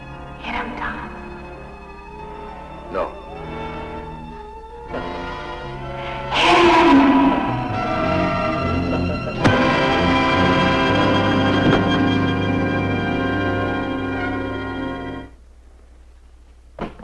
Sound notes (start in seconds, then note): 3.7 suspenseful music; 7.7 pipe thumping; 10.1 suspenseful music; 11.6 body thudding